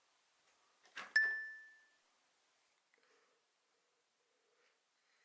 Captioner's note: bell dings